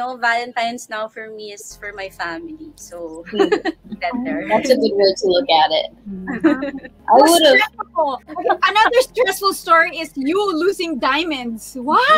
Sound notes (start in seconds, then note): 3.2 laughing